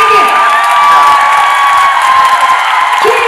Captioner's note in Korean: 박수